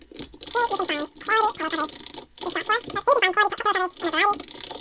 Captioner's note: typing; high speed speech